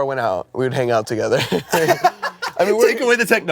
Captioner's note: laughs